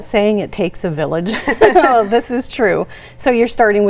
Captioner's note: both laughing